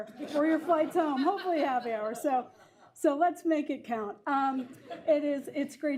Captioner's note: laughter; laughter